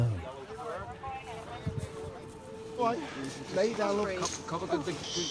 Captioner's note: people chat together